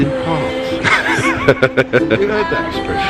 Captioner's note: laughing